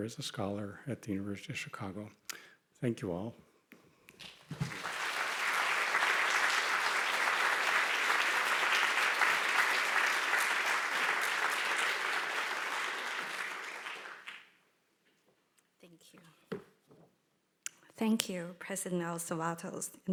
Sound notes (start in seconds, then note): 4.4 audience applauding